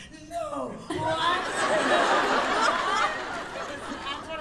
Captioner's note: laughter